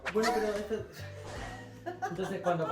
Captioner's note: laughs